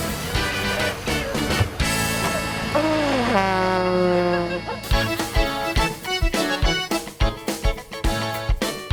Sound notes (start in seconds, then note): 1.5 vuvuzela noise; 5.4 happy accordion music